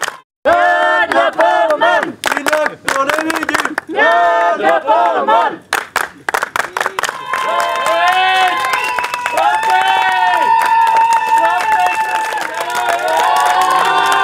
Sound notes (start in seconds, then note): 3.9 chanting